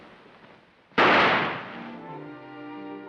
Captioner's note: gun firing; dramatic music